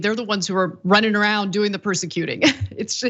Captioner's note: laugh